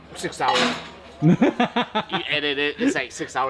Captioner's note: laughing